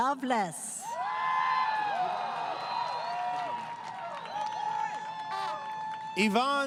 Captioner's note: crowd Cheering